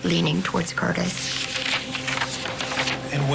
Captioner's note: pages Flipping